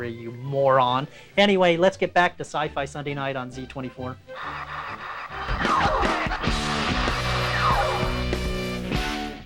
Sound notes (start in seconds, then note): 5.2 phaser fire